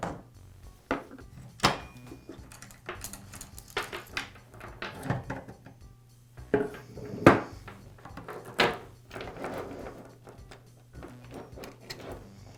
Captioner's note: pause